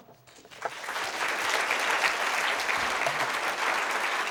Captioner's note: applause